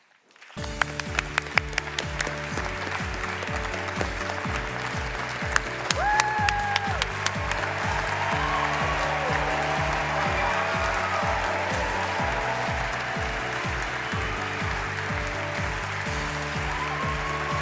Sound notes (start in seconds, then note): 4.6 applause; 10.5 cheering and applause